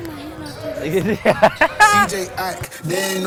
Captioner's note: laughs